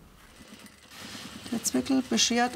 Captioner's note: sewing machine rattling